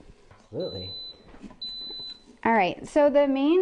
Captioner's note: beeping